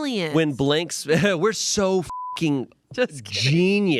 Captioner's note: beep